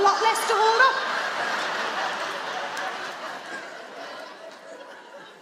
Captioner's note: audience laughing